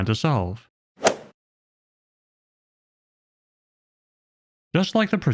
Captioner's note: golf ball hit sound effect